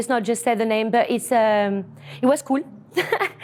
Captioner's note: laughs